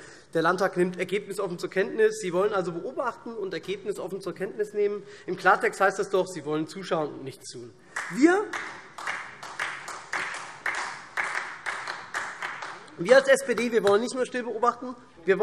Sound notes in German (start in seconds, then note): 7.9 Beifall SPD